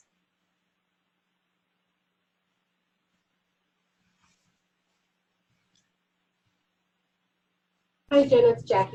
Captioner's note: pause